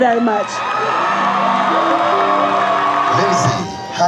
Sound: audience cheers; audience applauds

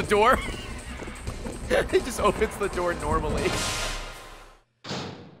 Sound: laughs

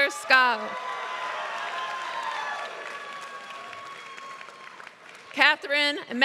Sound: applause

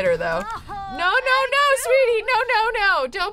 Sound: Sim groaning

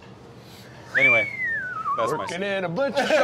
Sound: whistles

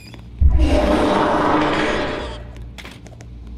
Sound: mega fart

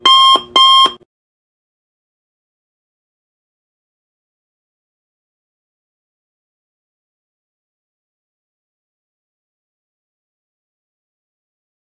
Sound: no Music

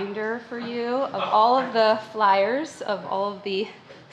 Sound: man laughs

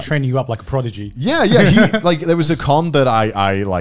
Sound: laughs

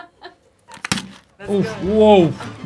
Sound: interviewer laughing; foil thudding

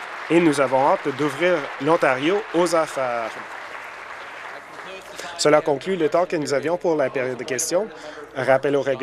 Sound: applause

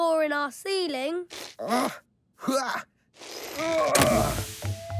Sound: grunting

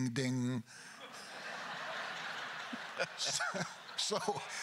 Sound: crowd laughter; Mamet laughs

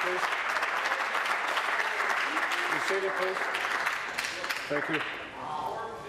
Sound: applause

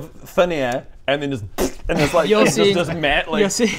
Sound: pffpft

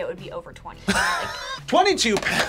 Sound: laughs

